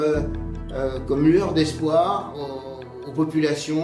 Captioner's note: speaking in French